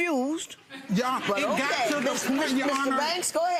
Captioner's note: audience laughs